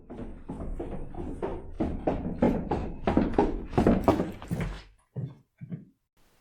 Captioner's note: steps come closer, as Maik returns